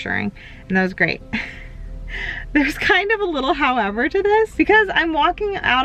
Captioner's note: chuckles